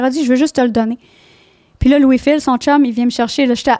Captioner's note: in french